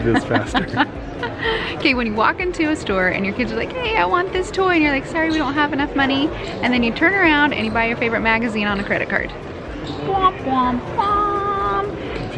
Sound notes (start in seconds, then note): 0.0 laughs